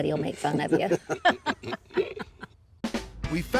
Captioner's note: laughs